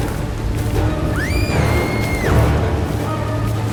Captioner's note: scream